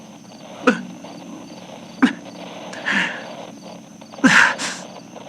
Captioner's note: soft sobs